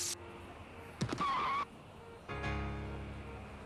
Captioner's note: skidding